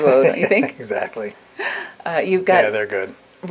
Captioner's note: laughs